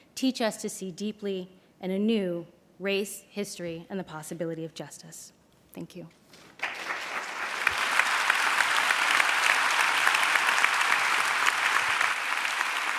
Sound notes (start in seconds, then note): 8.2 applause